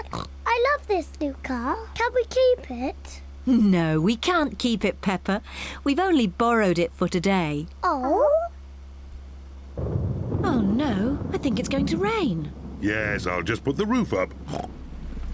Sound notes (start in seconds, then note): 9.7 thunder crashes; 14.4 oinks